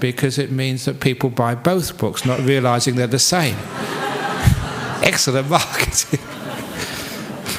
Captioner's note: laughter